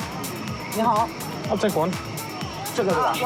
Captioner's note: speaking Chinese